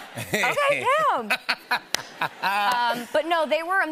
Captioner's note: laughs; laughter